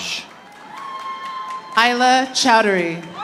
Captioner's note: audience applauding